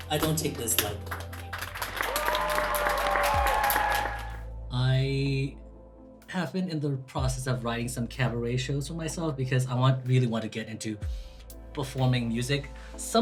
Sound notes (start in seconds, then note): 1.6 audience applauds